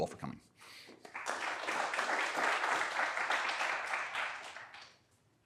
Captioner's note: applause